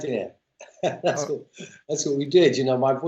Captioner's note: laughter